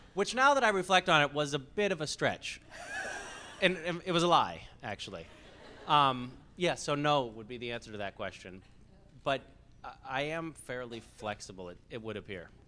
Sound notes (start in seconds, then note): 2.7 laughs